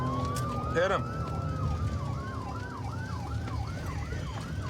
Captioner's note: sirens wailing